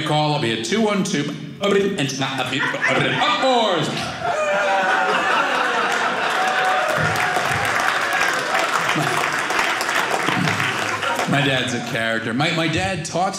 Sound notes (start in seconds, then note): 4.3 audience applauding